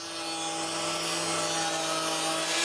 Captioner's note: machine whirring